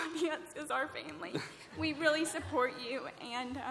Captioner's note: laughter